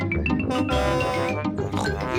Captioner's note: horn blares; snorts